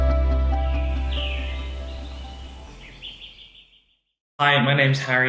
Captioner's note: birds chirping